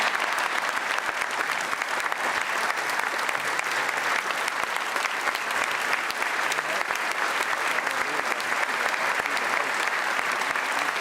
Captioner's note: applause